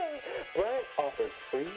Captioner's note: laughs